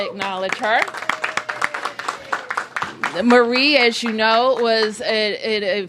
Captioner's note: applause